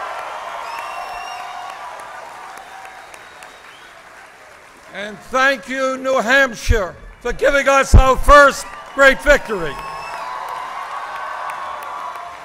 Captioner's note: applause